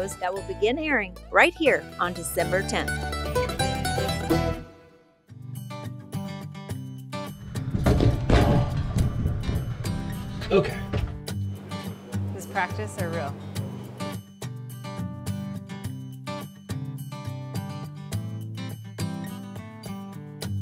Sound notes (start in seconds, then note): 2.7 lively music; 5.4 happy mellow music; 7.5 camera thumping; 13.6 happy mellow music